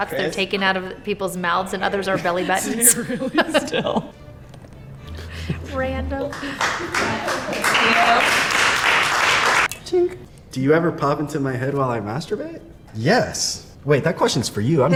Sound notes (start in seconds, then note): 6.3 crowd applauds